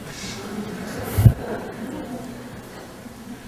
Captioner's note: laughter